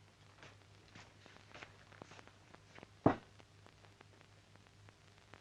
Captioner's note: floor pattering